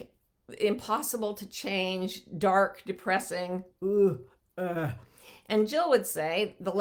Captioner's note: groans